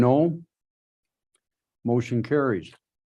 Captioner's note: silence